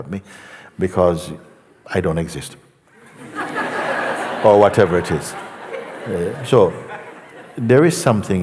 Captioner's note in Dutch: gelach